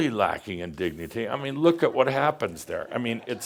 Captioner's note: some chuckles